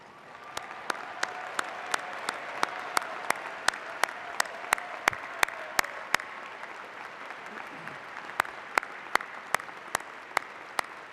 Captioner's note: applause